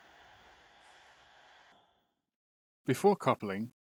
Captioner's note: sounds extinguish